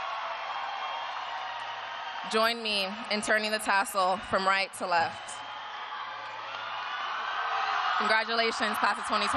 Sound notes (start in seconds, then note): 0.0 cheers and applause